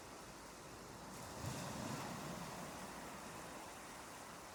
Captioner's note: waves crashing and gull's crying